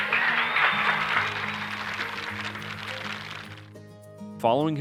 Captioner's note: audience applauding